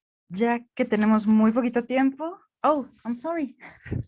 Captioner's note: speaking in Spanish